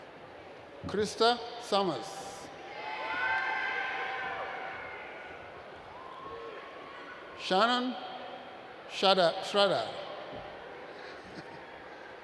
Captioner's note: laughs